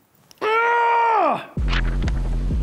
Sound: shout; whooshing

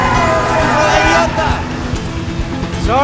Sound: yelling in Spanish

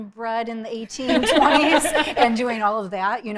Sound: both laughing

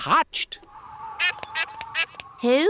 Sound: all quacking

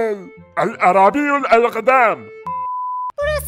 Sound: Arabic speaking

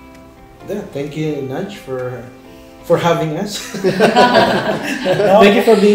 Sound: laugh

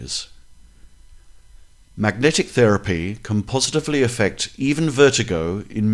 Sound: noises or buzzing in the ears

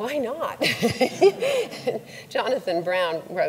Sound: laughs; audience laughs

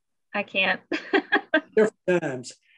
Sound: laughs

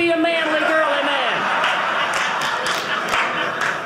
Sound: audience laughing

